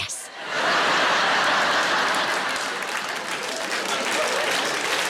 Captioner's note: audience laughs